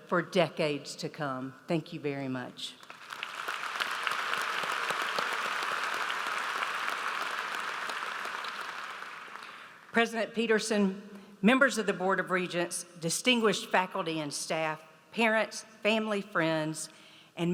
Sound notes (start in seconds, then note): 2.8 audience applauds